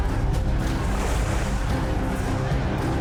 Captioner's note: clamoring